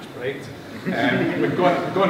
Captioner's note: laughter